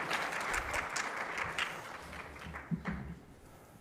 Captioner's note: audience applauding